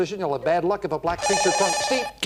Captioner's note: beep